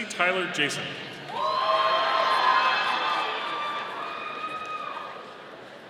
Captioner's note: audience cheering